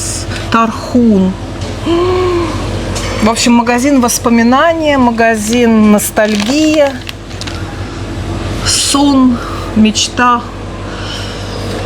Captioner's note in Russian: тяжело вздыхает